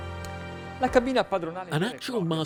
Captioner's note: speaking foreign language